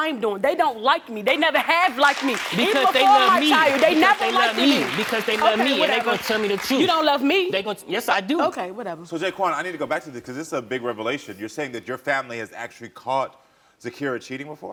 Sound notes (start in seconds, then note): 1.3 audience applauding